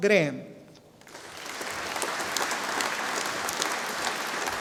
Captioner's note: audience applauding